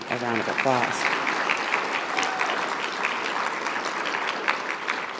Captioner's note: audience applauding